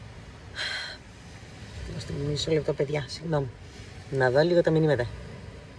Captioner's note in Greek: αναστενάζει; ξεφυσάει